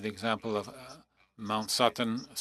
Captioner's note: speaking French